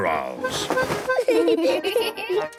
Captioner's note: giggling